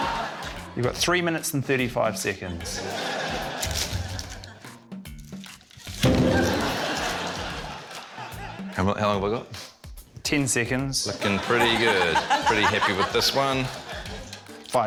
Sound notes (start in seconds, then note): 6.0 thud!